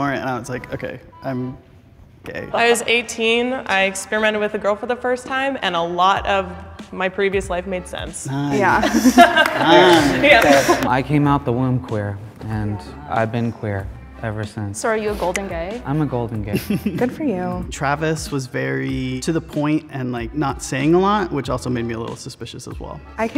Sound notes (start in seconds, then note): 8.6 laughs; 8.8 group claps; 16.5 laughs